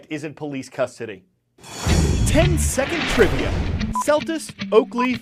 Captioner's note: voice-over